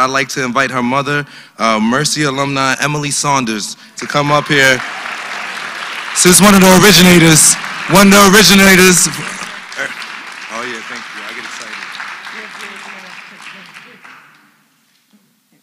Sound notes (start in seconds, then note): 4.9 applause; 9.5 applause